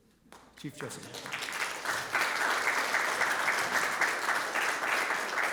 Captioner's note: audience clapping